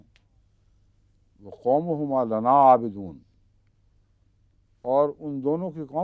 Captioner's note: Arabic